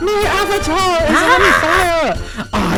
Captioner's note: Screams in Marge Simpson